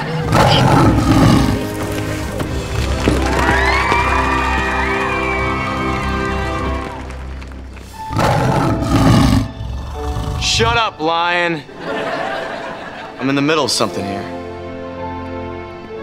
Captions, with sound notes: [roaring] [cheering] [roaring] Shut up, lion! [laughing] I'm in the middle of something here.